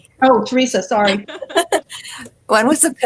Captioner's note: all laugh